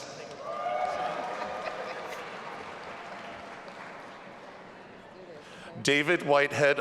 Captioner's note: audience applauding and cheering